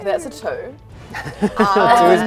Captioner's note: laughs